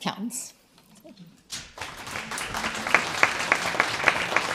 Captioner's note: applause